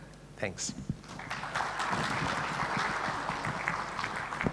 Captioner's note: audience applause